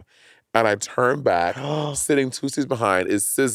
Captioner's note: gasping